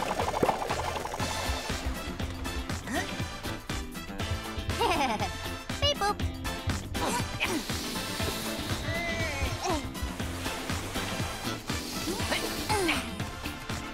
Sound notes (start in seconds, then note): 4.7 chuckling; 6.9 grunting